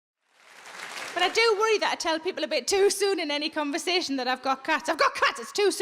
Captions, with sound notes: (audience clapping) - But I do worry that I tell people a bit too soon in any conversation that I've got cats. I've got cats!